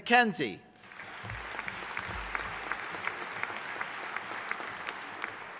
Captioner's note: audience applauding